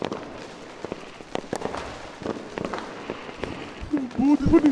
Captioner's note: crackers bursting